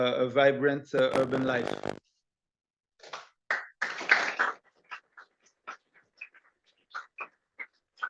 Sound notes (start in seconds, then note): 3.0 applause